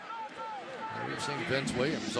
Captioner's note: onfield chatter